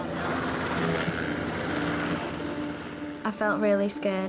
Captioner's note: helicopter blades whirring